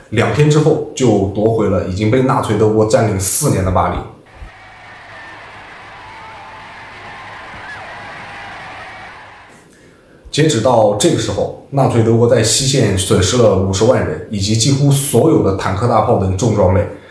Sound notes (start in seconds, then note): 4.2 cheering